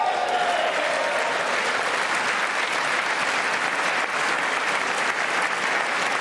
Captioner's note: applause